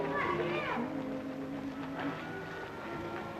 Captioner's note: children chattering